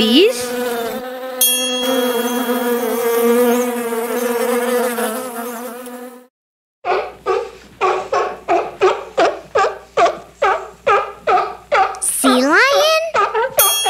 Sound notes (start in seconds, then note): 0.0 bees buzzing; 1.4 bell dings; 7.7 animal barking